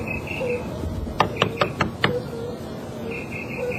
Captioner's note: knocking